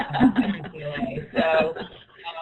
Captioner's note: laughing